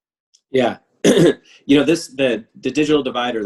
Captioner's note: clears throat